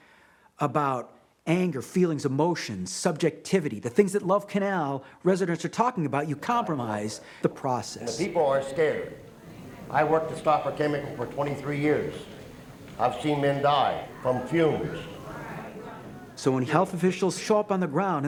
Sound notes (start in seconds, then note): 13.8 audience murmuring